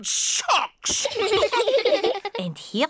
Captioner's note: all laugh